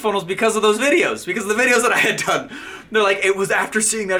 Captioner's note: laughing